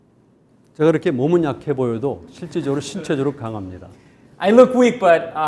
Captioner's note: speaking in Korean